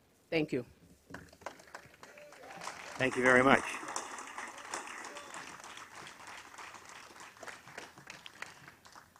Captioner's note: applause